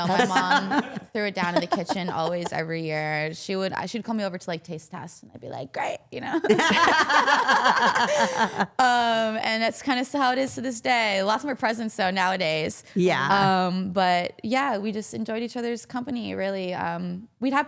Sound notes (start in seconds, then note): 6.4 all laughing